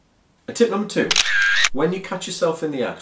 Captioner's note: camera shutter clicks